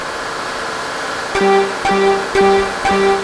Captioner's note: machine noise; timer beeps